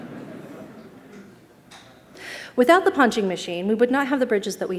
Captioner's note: laughter